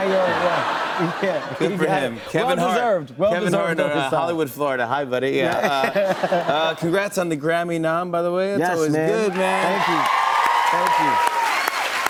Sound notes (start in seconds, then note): 0.0 laughter; 5.4 laughter; 9.2 cheers and applause